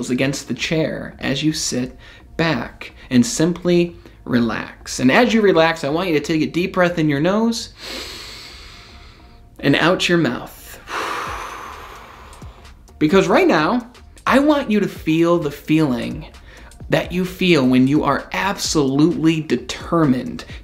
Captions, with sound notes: against the chair as you sit back and simply relax. And as you relax, I want you to take a deep breath in your nose (breathes in deeply) and out your mouth. (breathes out) Because right now I want you to feel the feeling that you feel when you are absolutely determined